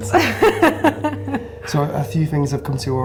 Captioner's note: laughing